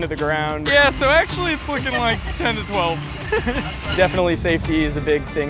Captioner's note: laughs